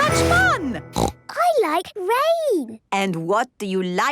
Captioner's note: snorting